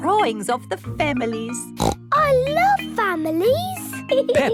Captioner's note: snorts